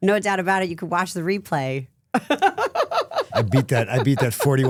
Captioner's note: laughing